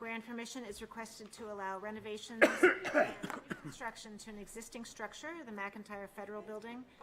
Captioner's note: clears throat